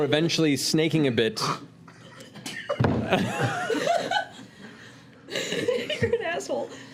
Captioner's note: laughter